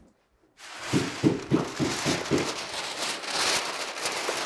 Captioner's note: paper crunching